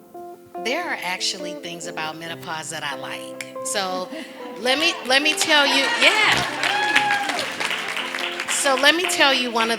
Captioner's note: laughter and clapping